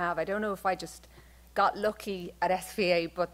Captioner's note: none